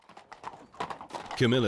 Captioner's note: horses trotting